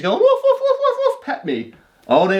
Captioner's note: imitating dog barking